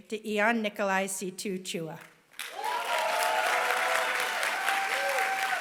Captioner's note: applause